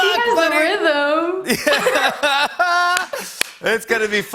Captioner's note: laughter